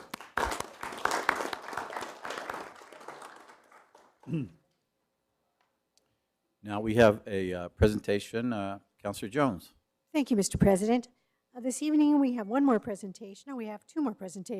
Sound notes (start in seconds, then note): 3.3 applause